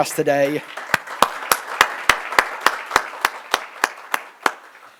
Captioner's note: applause